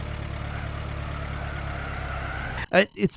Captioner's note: tires squealing